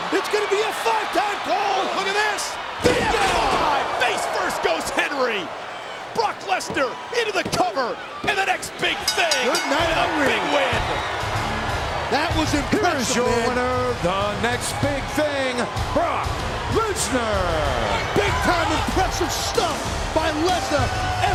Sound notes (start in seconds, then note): 2.9 floor pounding; 7.4 referee pounding; 8.8 bell rings